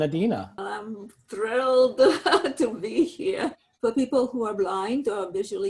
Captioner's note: laughs